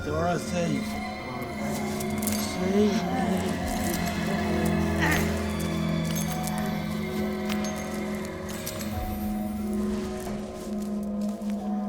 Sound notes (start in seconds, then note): 5.1 Glinda grunts; 5.1 chains clinking